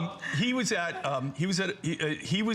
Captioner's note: laughter